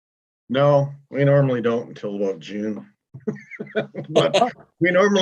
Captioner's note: laughs